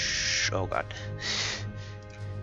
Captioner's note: exhales